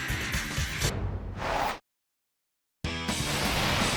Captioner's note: upbeat rock music continues; transition whooshes; upbeat rock music